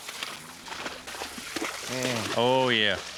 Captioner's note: splashing